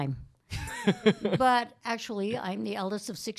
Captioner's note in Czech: Chichotá se